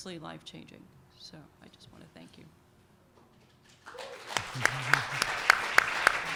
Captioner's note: applause